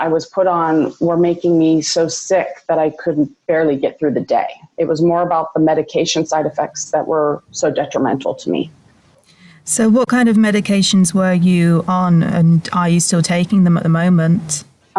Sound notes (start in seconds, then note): none